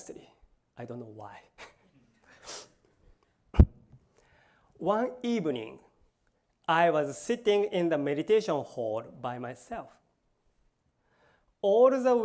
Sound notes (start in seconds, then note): 1.5 laughs